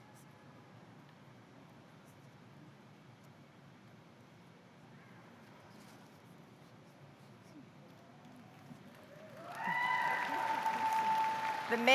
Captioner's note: cheers and applause